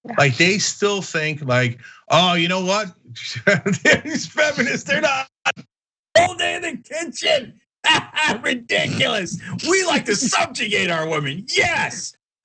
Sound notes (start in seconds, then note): 3.2 laugh; 7.9 laugh